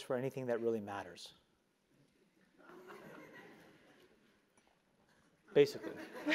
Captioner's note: laugh; laugh